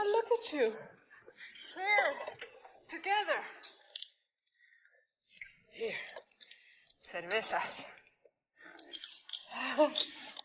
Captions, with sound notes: And look at you. Here. Together. Here. (foreign language) - Nice.